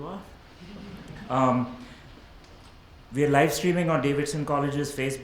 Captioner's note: audience laughs